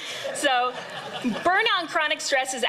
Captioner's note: laughter